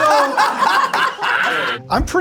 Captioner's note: all laugh